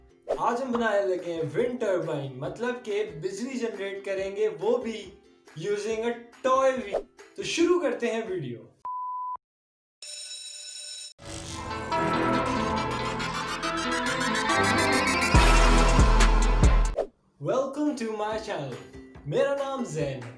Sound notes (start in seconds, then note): 8.3 school Bell Ringing; 11.2 background Music